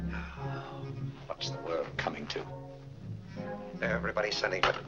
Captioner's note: sighs